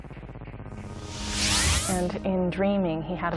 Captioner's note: electricity buzzing; air whooshes